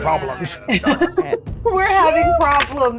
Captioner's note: giggles